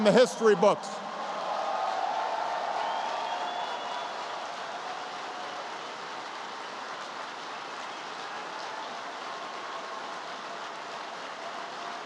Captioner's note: applause